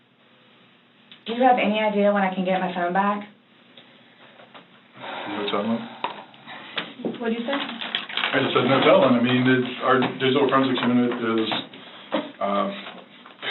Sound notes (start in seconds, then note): 5.0 sighs